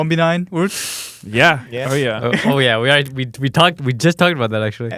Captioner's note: laughs